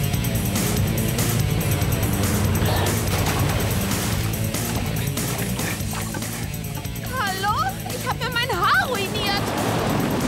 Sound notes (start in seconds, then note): 3.8 splash